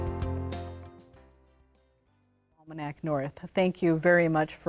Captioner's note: audio out